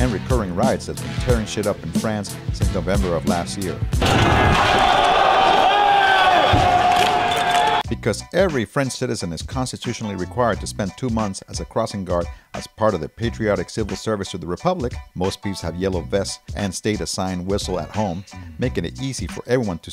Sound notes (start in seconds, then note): 4.0 cheering